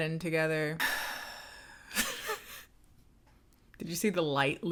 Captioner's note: sighs